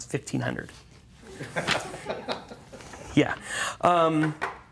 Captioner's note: laughter